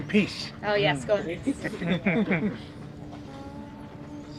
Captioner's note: group laughing